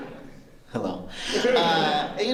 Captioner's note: laughter